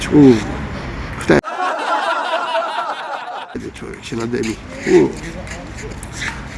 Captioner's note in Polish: śmiech